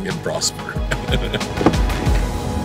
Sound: laughs

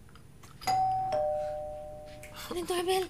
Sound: doorbell dinging

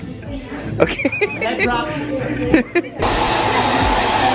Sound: laughing

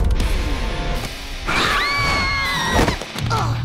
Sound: screaming; groaning

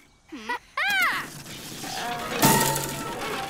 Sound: laughs

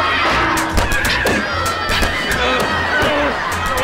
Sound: screaming; grunting

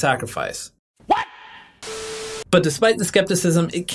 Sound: static crackles

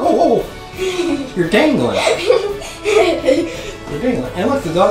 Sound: laughing

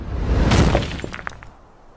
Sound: crush? splat? idk tbh

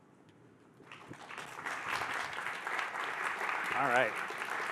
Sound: applause

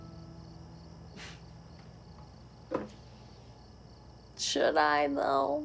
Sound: Sam chuckles

